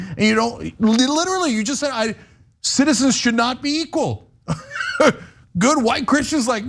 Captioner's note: laugh